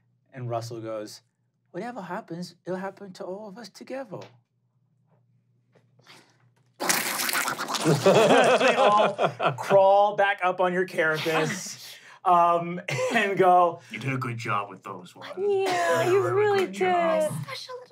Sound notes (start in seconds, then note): 6.2 skittering